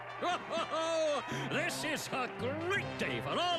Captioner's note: laughing